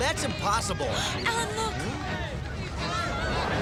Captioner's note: gasps